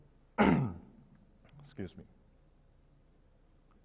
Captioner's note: coughs